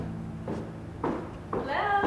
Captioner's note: footsteps approaching